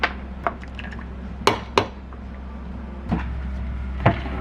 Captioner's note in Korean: 쪼로록